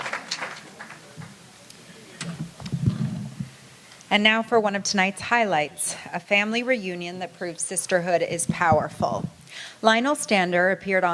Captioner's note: applause